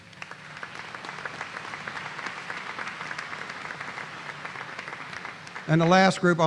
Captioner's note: applause